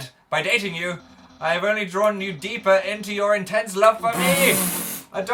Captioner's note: snorts loudly